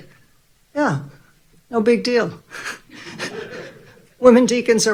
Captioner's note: audience laughing